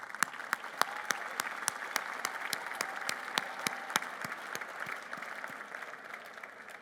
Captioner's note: applause